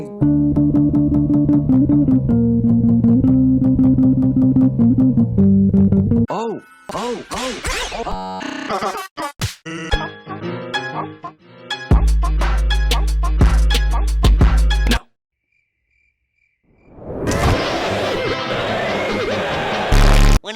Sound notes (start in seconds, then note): 6.9 audio glitches out; 8.6 Sans Undertale laughs; 15.4 crickets; 17.2 intro plays amidst glitchy distorted noises